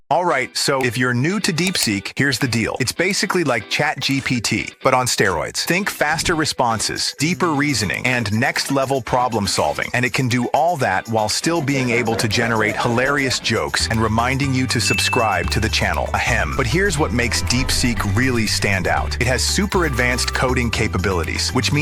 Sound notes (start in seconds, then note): 16.2 ahem